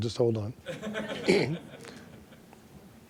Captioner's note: laughter